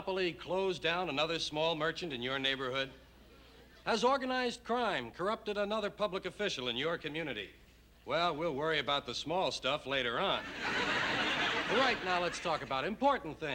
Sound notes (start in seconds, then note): 10.4 laughter